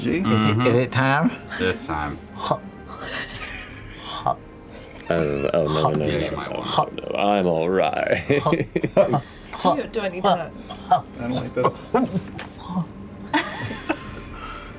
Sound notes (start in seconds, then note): 3.1 laughter; 8.0 laughing; 8.1 laughter; 13.3 laughter